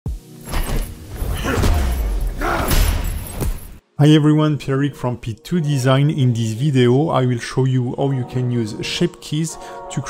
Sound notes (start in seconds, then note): 0.4 bag banging; 0.5 character grunting